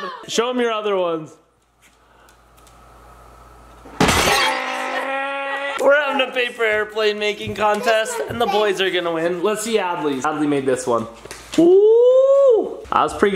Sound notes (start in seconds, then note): 4.0 glass smashing